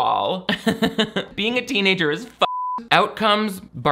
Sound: laughs; beep

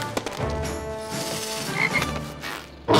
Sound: croaking

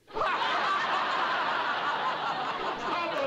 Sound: laughter

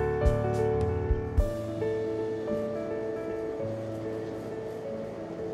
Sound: urban noises

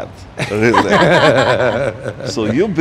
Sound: laughing

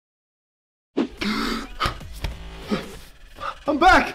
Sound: gasping

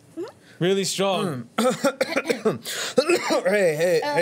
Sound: Anton coughs

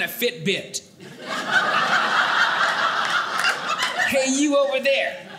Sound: audience laughing

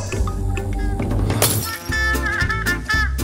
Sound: glass Shatters

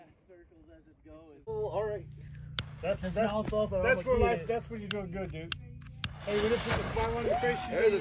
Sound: chatter; whooping and Chatter

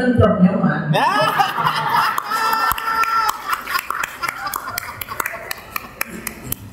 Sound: audience: laughing and clapping

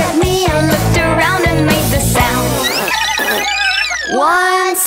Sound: blows raspberry

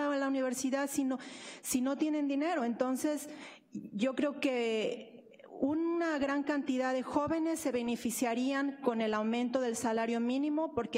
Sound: speaking spanish

